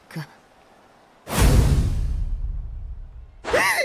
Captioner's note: thud!